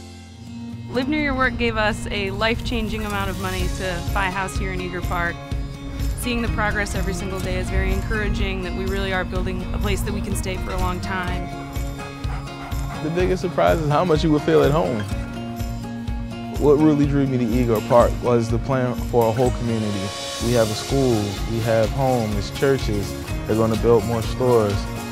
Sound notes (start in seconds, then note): 11.4 dog panting